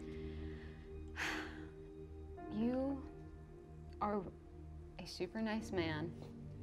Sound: sighs

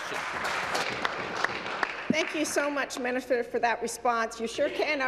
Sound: applause

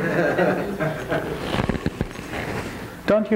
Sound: crowd laughs

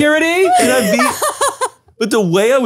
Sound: laughs

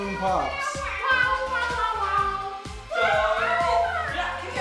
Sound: animal sounds

